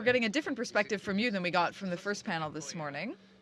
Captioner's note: speaking french